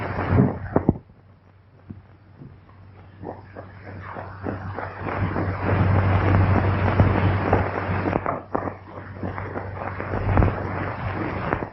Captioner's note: pounding